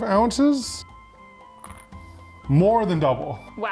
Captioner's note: ice clinking